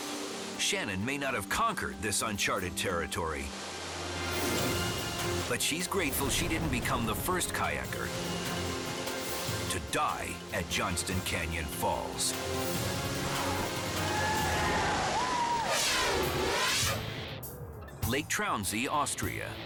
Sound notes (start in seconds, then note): 13.0 crowd cheers; 15.5 air whooshes; 18.0 pulsing upbeat music